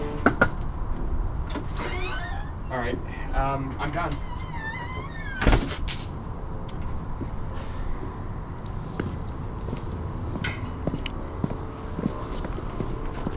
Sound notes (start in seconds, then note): 0.0 door opens; 1.5 knocks; 5.5 door closes; 5.7 spits